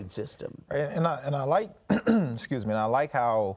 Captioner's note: clears throat